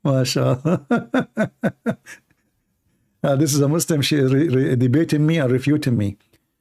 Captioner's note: Ketawa